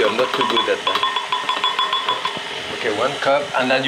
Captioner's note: cup clinking; whirring continues